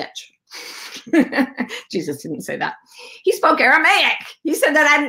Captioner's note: laughs